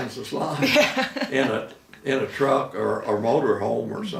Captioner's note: laughing